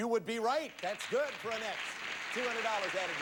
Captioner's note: audience applauding